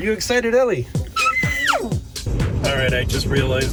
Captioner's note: screams